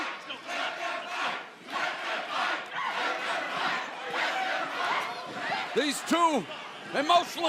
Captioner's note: crowd cheering